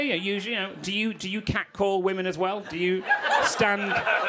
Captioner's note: crowd laughing